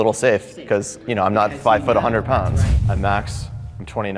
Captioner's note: whoosh air